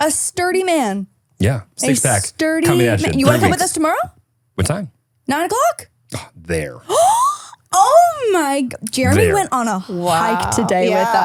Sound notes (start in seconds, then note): 6.9 gasping